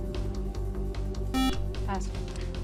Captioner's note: buzzer